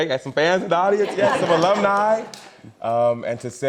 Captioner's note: audience laughs